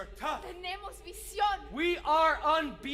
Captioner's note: speaking Spanish